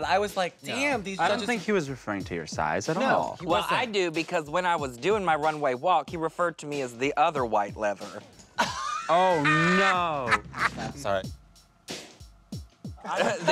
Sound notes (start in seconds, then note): 10.9 Katya cackling